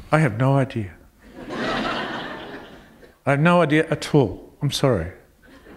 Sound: laughter

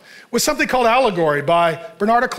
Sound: none

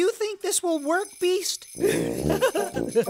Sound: jingling of hat bells; giggling

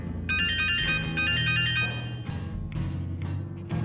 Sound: phone ringing

